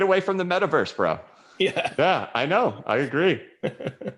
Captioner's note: chuckles